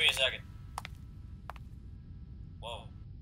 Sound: footsteps

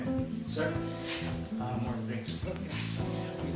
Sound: ding

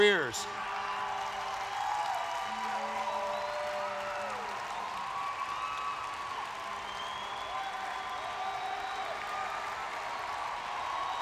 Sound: applause and cheers

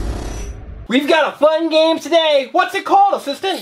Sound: voiceover

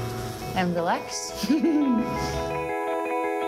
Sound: laughs

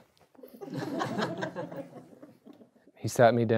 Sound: audience laughs

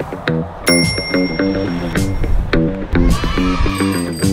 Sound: upbeat funk music; bell rings; bike bell ringing; kids cheering

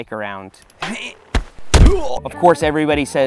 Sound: grunting

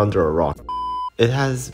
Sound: beep

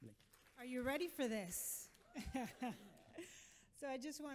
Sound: laughs

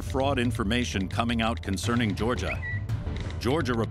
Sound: Twitter chime

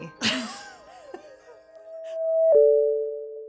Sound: laughs

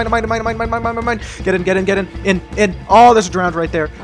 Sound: gasps

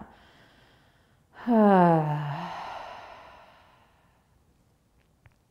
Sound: sighing exhale

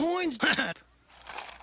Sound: chuckles

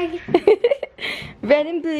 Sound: laughs

